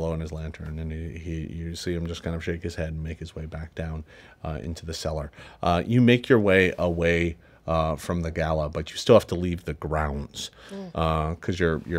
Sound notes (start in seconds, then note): none